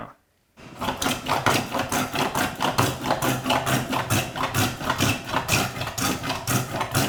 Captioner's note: plane on wood rhythmically scraping